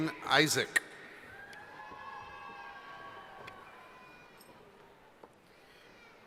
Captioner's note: cheering